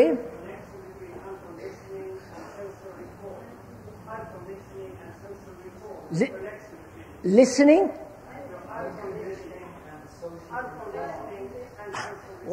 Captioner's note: sound of train